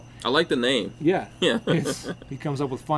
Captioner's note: chuckling